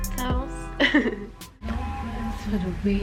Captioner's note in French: rires